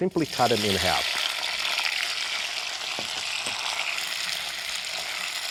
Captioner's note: sizzling